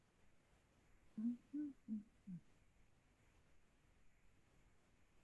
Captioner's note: tranquil humming